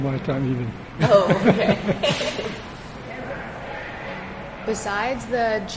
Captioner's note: laugh